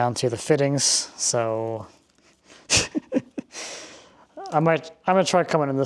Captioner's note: chuckling